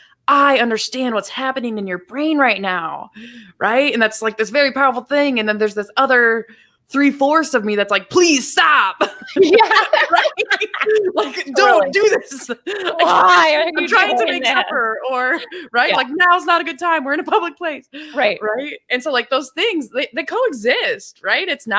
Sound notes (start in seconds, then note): 10.4 both laugh